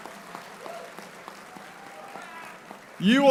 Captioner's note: applauding